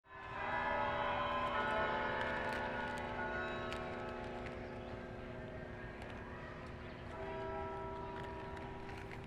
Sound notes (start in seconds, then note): 0.2 bells ringing